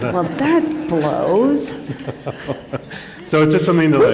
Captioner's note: laughter